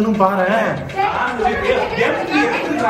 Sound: people quarreling

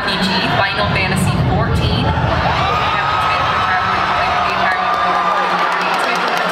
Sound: applause

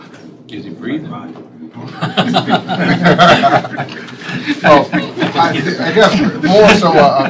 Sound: laughter

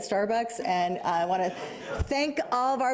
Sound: audience chuckling

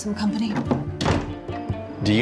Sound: door slam

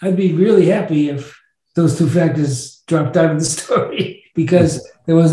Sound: chuckles

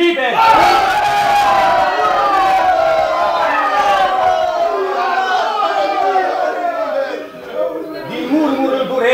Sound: cheers

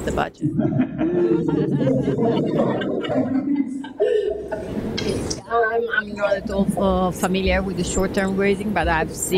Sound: audience laughs

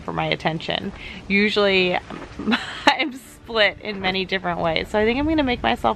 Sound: laughs

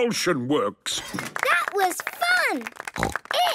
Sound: applause

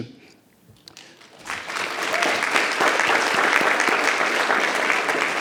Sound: audience applause

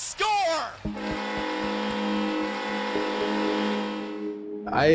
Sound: horn sounds

